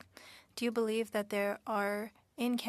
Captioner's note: speaking French